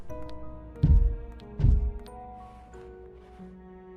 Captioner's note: thuds